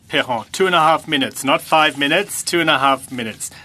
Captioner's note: speaking French